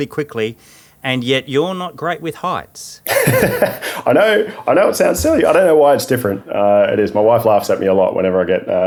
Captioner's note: laughing